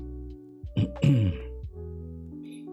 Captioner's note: clears throat